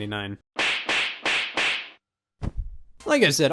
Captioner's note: 4 knee slaps